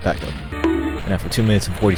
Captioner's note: bonk